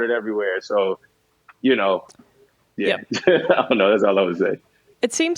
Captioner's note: laughs